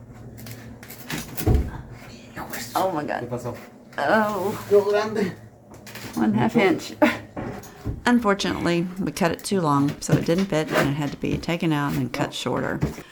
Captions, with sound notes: Oh my God...Oh One half inch [Laugh] Unfortunately we cut it too long so it didn't fit and it had to be taken out and cut shorter.